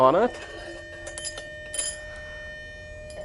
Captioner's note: school bell